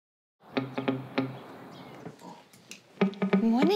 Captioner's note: birds twitter